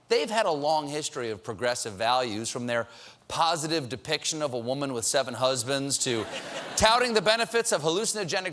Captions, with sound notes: POSITIVE DEPICTION OF A WOMAN WITH SEVEN HUSBANDS TO TOUTING THE BENEFITS OF HALLUCINOGENIC. DRUGS. ( LAUGHTER ) AND NOW DISNEY HAS STRUCK